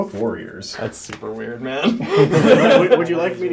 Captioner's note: all laugh